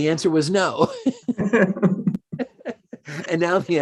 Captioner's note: laughing